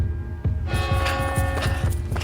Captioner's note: church bell ringing